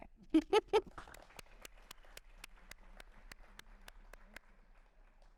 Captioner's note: chuckling; audience applauding